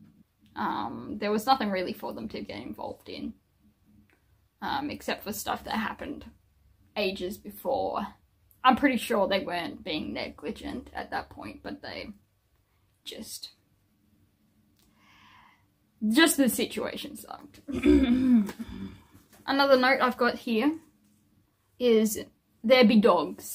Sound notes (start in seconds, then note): 17.6 fake coughs in insinuation